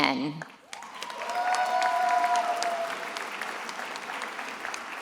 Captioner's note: attendees applauding